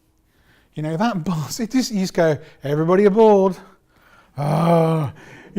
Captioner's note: moan